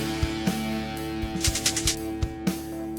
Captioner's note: rhythmic clicking